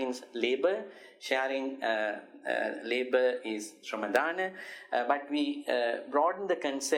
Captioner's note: speaks in foriegn language; speaks in foriegn language